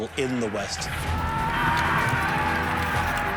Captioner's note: men shouting